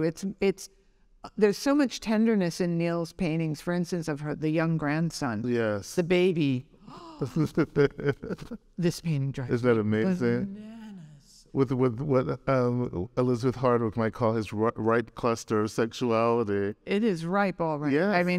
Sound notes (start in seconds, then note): 6.8 gasping; 6.9 laughing